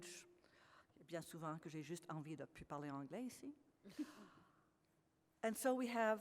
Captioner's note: speaks French